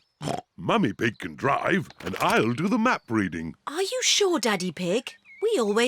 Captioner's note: snorts